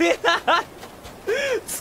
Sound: cries; inhales again

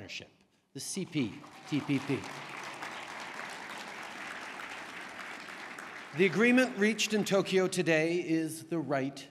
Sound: applause

